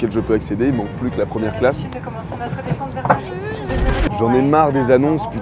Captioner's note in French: bruit d'explosion